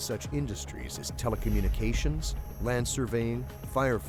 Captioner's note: voiceover